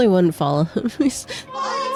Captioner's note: laughs